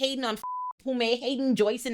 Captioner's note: beep